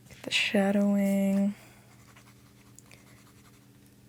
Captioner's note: pencil Writing